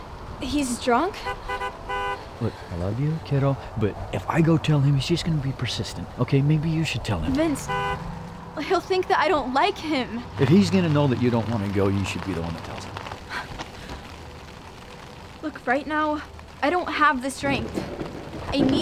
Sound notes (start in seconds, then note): 1.2 honking; 13.2 gasping